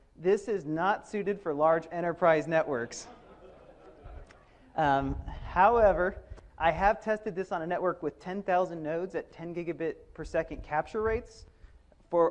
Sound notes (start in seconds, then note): 3.0 audience laughs